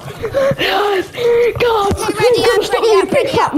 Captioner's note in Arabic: جنون وهتاف